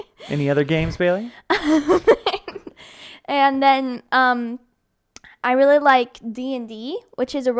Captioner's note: laughs